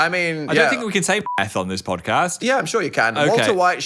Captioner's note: beep